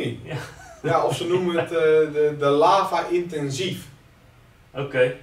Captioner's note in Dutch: lacht